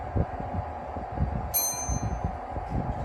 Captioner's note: chime